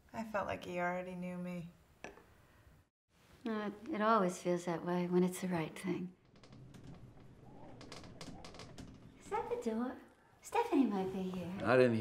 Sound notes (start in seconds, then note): 6.5 wind blowing; 7.6 creaking